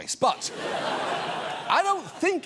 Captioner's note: studio audience laughs